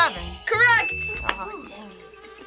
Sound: bell rings; buzzer rings

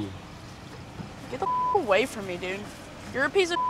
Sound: beep; beep

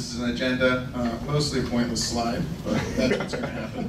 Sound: laughing

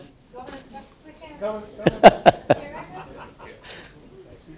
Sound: laugh

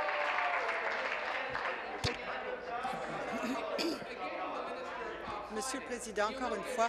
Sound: applause

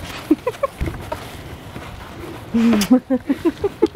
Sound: laughs

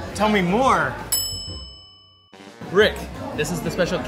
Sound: bell dings

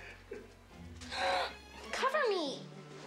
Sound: gasps

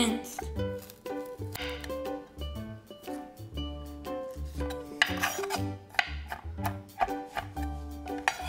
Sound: chopping

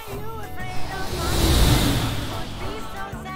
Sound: Windy sound of Buzz taking off

